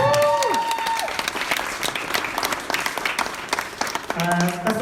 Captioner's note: applause